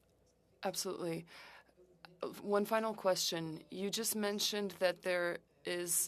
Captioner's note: speaking French